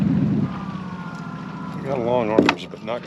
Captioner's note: winch motor running